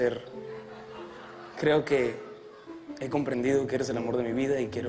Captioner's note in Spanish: risas